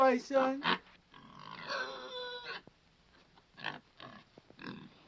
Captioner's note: Paisan squeals